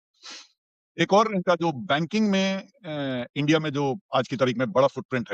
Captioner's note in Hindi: नाक से की जाने वाली आवाज़